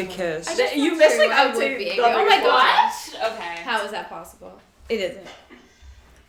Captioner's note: everyone excitedly talking over each other